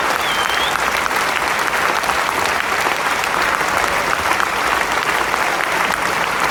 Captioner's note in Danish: Bifald